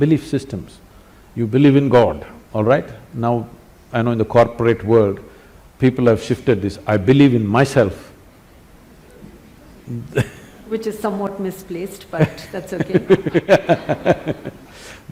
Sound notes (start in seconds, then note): 9.0 laughs; 12.2 both laugh